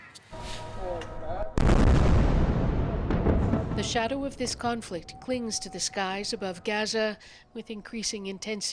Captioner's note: explosion